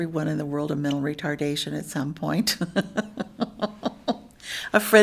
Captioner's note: laughs